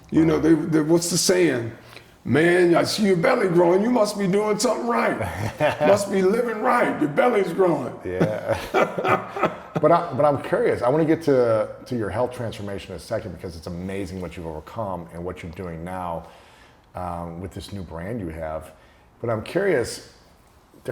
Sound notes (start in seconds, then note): 8.1 chuckling